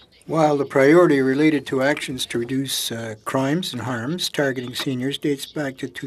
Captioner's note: speaking French